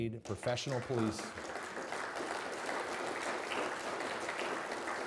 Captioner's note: people applauding